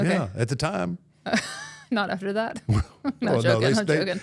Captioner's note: laughs